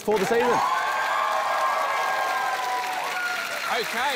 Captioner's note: cheering, applause